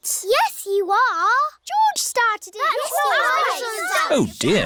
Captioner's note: all arguing